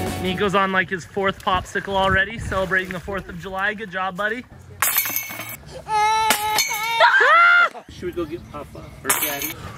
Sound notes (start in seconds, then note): 4.7 metal clinking; 5.7 little kid crying; 7.2 shouting